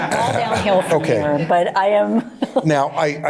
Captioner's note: laughter